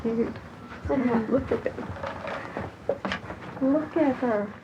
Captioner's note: chuckles